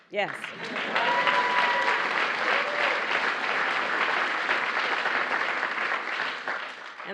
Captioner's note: applause